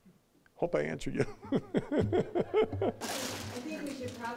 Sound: all laughing

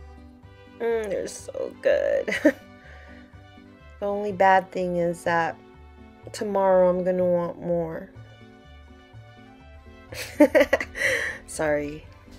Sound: laughing

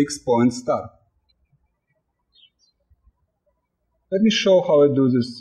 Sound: birds chirping

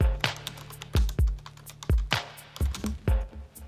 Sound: keys clicking

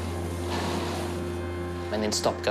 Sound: whirring stops

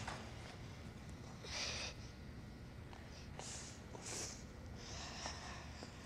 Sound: cries softly, sniffles

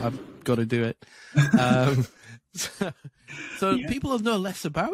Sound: laughs

